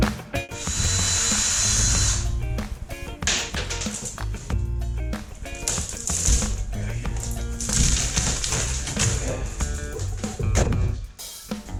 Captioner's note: the sound of drills and falling wood products